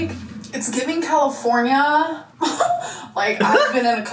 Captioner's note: laughs